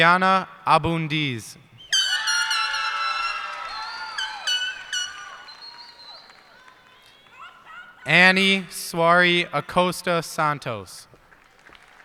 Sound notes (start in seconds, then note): 1.9 cheers and applause; 11.0 applause